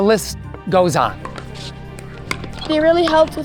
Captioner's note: court noises